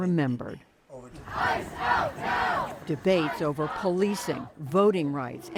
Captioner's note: chanting